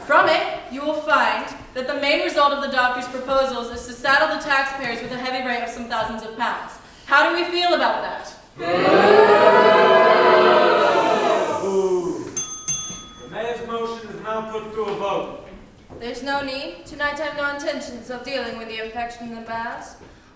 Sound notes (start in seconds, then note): 8.5 booing; 12.3 bell rings